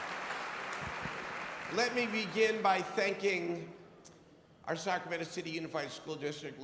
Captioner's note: applause